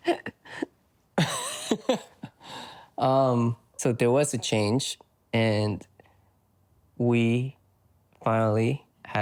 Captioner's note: laughs